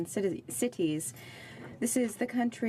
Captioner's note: speaking French